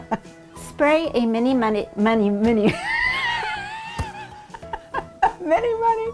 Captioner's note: laughing; laughing